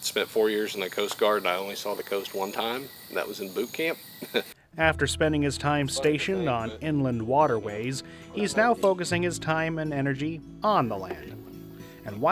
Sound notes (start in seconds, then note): 4.2 laugh